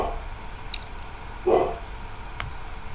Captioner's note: bark; bark